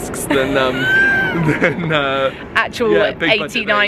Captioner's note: laughs